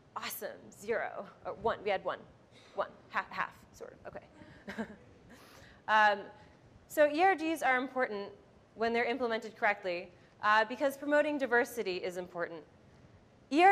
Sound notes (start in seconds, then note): 4.6 chuckles